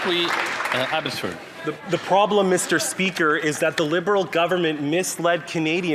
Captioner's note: applause